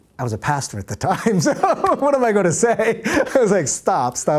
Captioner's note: laughs